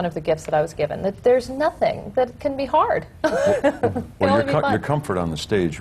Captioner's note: laughs